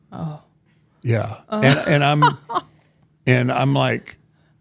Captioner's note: Michelle laughing